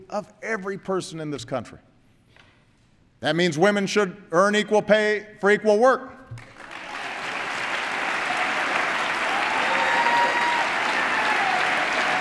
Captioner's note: applause